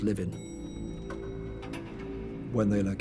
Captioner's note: elevator bell dings